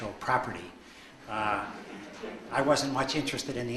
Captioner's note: audience laughs